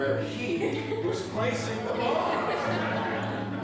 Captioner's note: laughter